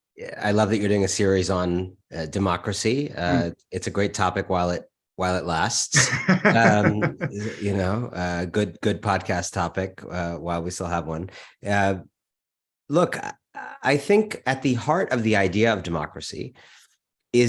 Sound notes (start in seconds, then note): 5.9 laughing